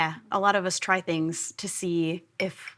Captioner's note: none